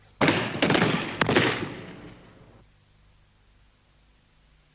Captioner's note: guns firing